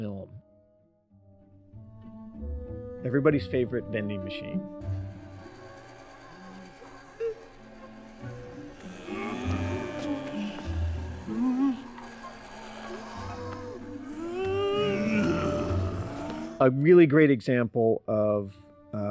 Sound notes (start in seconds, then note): 8.8 growling; 14.2 screaming